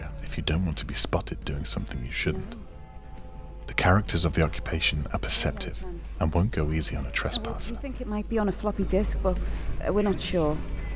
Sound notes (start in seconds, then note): none